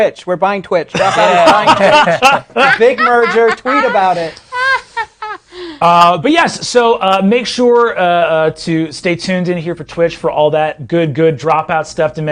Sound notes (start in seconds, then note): 4.3 laughing